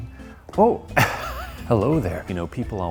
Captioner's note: chuckling